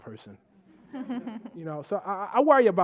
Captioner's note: audience laughing